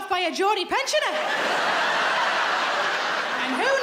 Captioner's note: laughing